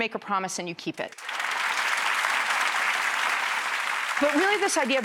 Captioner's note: applause